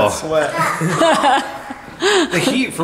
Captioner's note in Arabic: يضحك